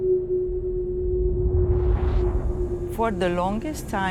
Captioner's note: air whooshing